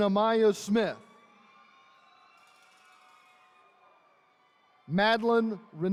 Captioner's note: attendees cheering